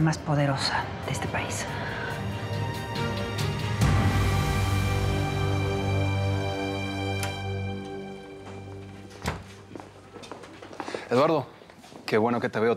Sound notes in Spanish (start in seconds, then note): 10.6 ruido al entrar